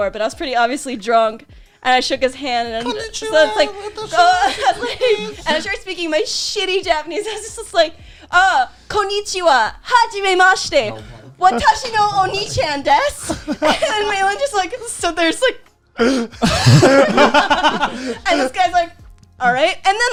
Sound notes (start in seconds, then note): 2.8 mocking sounds; 8.7 speaking foreign language; 16.0 laughing